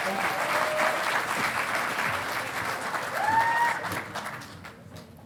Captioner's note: audience applauding